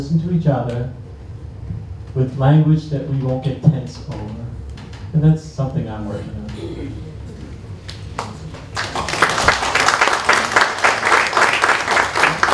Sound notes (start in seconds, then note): 8.1 applause